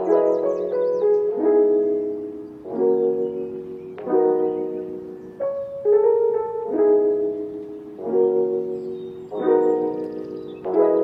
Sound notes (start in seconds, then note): 0.3 piano jazz music; 2.7 seagulls squawking